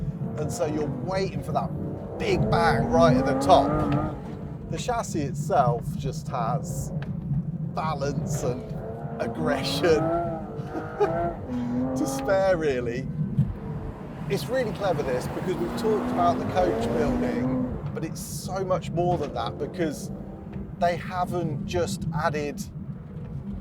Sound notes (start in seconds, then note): 10.4 laughs